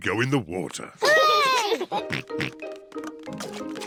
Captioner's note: peppa and george cheer